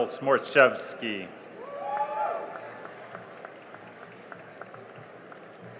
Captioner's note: cheering and applause